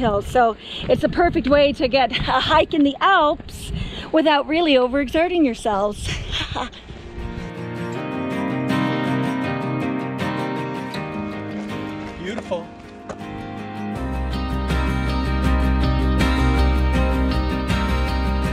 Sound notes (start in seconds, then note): 6.0 laughs; 8.0 gentle music; 13.9 gentle music